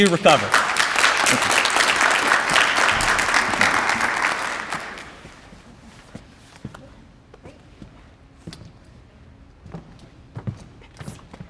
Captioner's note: applause